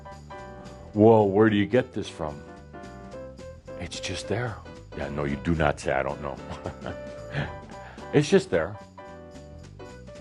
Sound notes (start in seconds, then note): 6.4 chuckles